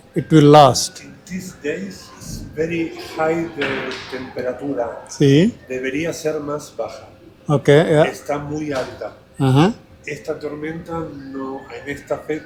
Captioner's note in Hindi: स्पेनिश बोल रहा हूं